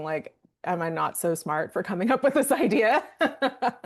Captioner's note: laughing